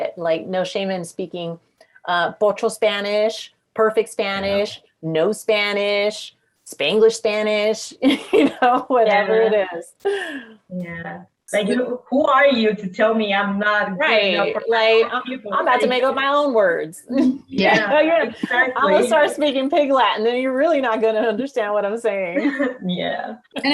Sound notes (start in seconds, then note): 8.3 laughing; 17.2 everyone giggling